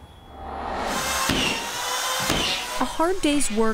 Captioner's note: drill whirring